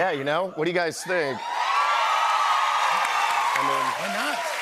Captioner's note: cheers and applause